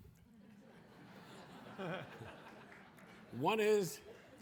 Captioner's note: audience laughing